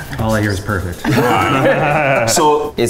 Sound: laughs

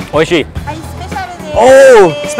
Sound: speaks Japanese

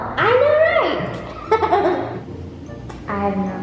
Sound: laughing

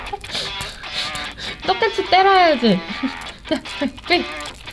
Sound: laugh; laugh

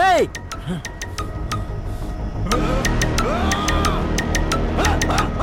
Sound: screams

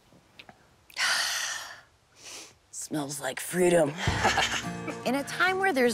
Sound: sniffs

